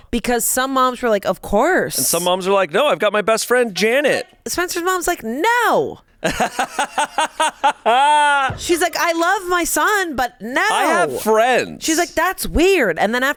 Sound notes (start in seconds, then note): 6.2 laughs